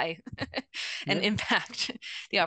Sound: laughing

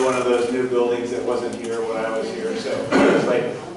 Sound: crowd laughter

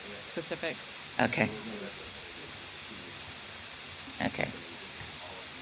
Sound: man speaking off mic

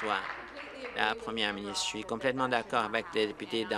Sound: applause

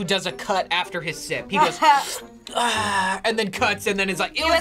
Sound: slurps

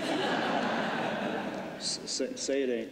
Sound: laughter

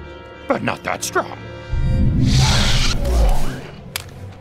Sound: woosh

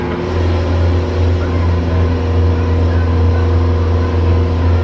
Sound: boat engine whirring

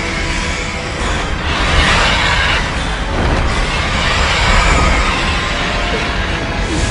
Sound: very dramatic music; roaring sounds

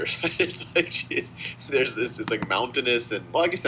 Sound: laughing

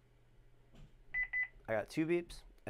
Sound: beeping

